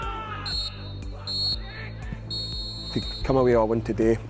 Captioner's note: final whistle